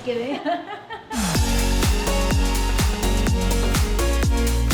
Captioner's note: laughs; upbeat music continues